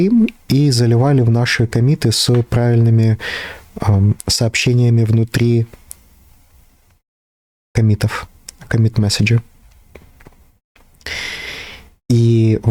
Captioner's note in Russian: тяжело вздыхает